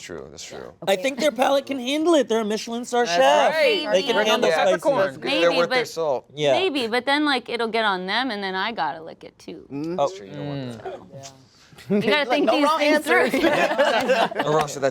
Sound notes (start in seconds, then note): 9.7 moaning in disgusting; 13.1 laughter